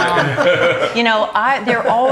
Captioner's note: laughing